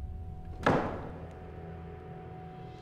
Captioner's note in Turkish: Kapı kapanma sesi